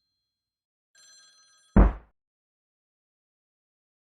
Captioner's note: sound of head banging